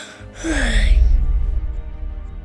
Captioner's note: yawning